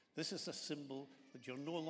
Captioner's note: none